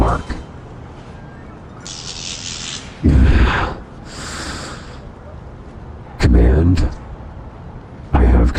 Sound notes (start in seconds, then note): 1.8 electricity arc noise